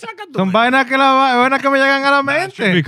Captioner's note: laughing; speaking In Foreign Language